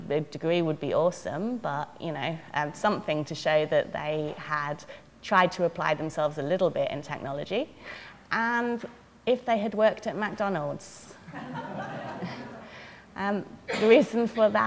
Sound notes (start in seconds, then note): 11.3 audience laughter